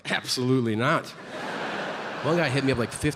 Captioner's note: audience laughing